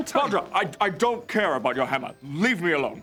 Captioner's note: none